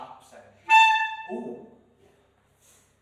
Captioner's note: harsh, unpleasant tone